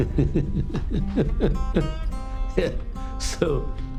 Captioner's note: laughters